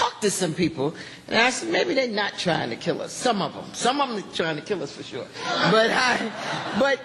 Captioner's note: laughter